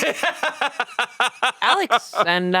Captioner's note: laughs